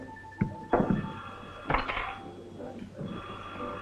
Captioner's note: phone rings